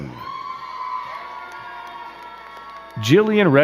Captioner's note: crowd cheering and clapping